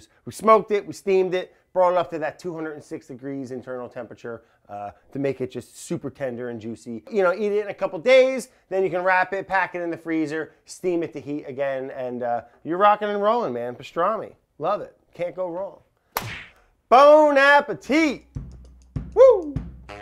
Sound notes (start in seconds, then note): 16.1 hands smacking; 18.2 rhythm clicking; 18.3 bass drum beating